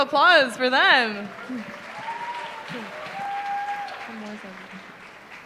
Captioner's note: applause